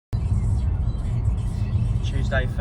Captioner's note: car radio